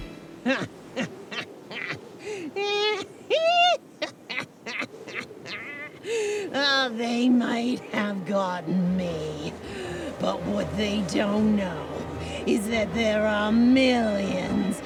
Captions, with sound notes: -[Mosquitoes buzz] -[Gal laughs wickedly] They might have got me, but what they don't know is that there are millions